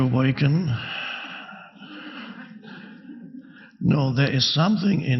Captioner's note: audience laughing